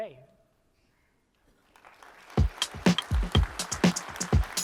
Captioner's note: applause